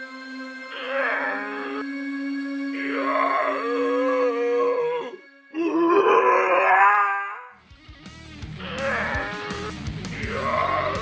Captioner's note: zombie growls